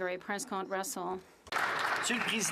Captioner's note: applause